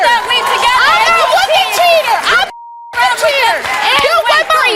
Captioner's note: yelling